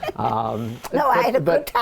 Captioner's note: laughter